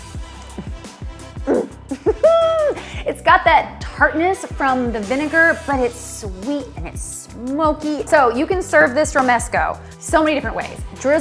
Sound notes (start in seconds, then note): 1.4 giggles